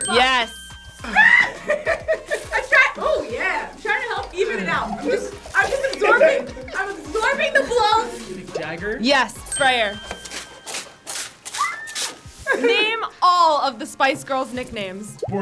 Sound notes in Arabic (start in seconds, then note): 0.9 يصرخ